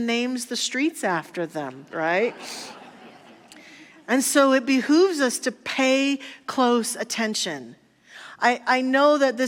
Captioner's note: audience laughter